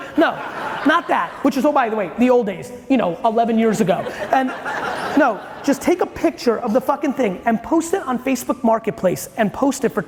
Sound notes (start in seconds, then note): 3.9 audience chuckling